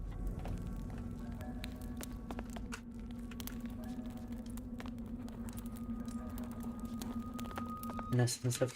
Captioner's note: footsteps